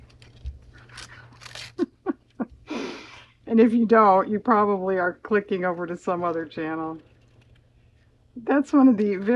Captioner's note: laughs